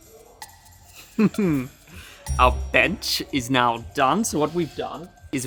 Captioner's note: upbeat quirky music; laughs